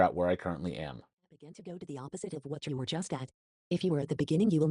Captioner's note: voice Rising